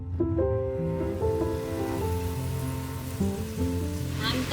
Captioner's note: meat sizzling